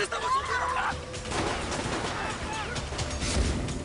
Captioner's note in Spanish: Disparos